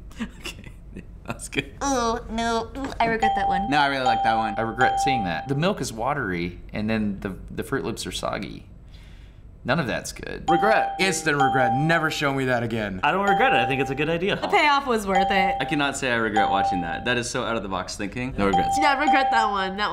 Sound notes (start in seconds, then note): 4.0 ding